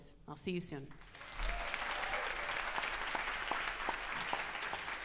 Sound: audience applauds

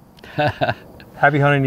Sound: chuckles

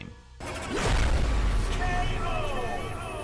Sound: intense rumbling

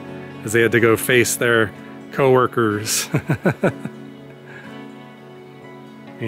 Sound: laughter

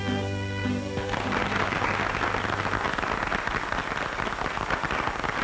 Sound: applause

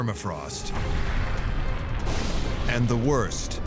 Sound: ominous music; thunder and lightning

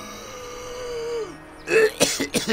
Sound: coughs more

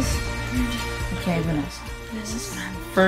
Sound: whispers

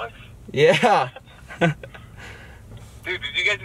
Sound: laughs

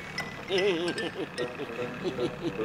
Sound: laughing nervously

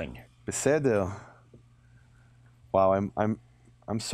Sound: speaking in a foreign language

